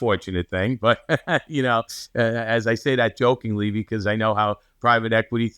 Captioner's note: laughs